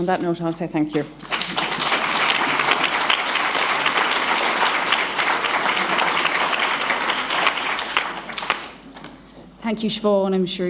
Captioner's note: applause